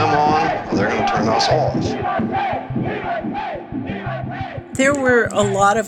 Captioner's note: chanting